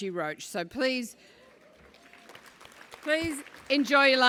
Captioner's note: applause